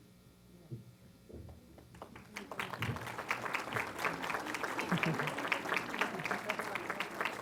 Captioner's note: applause